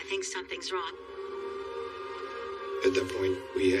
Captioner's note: distant siren wailing